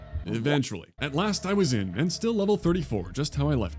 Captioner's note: none